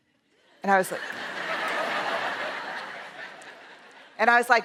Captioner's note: laughter